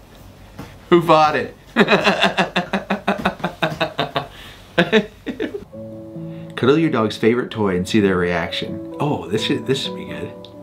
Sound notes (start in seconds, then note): 1.8 laughing